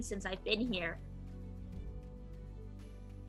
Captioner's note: none